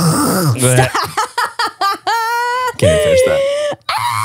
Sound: laughing

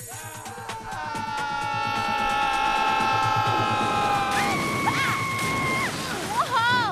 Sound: screaming

